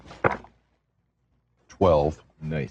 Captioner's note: dice rolling